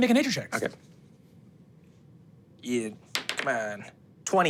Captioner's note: dice rolling